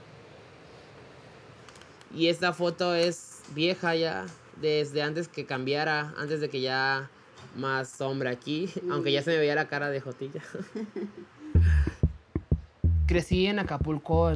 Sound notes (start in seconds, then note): 10.5 laughs